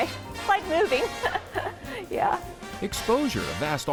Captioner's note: laughs